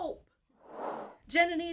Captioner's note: air whooshing